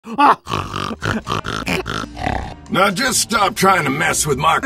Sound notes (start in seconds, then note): 0.1 laughs and snorts